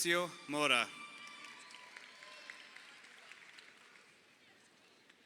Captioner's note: crowd cheering